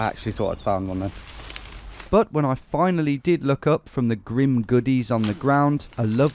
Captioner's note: none